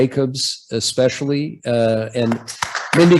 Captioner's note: applause